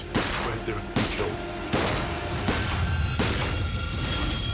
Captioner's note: gun shots